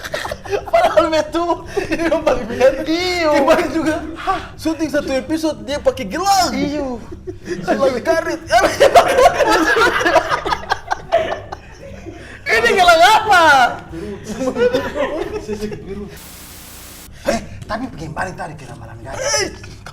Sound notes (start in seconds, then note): 0.0 laughing; 8.6 laughing